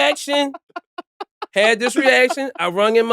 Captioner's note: laughing